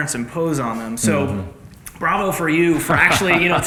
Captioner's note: laughs